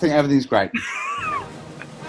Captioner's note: giggling